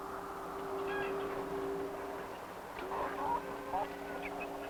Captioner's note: chickens clucking